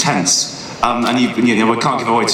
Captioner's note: none